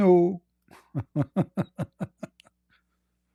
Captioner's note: Ketawa